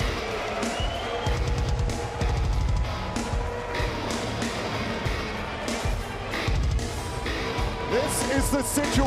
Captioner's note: crowd cheering